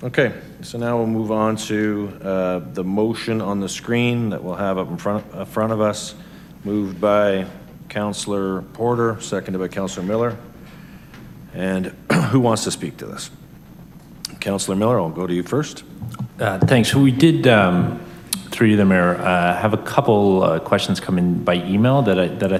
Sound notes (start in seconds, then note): 11.8 coughs